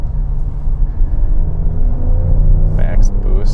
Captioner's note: engine revving